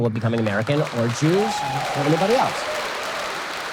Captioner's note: audience applause